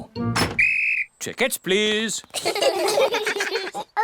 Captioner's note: blows whistle; all laugh